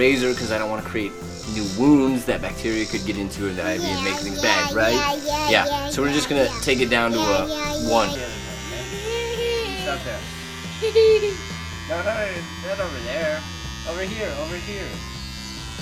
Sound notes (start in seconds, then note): 8.7 electric shaver buzzing, girls giggling; 15.6 shaver buzzing